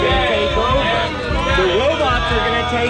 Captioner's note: audience boos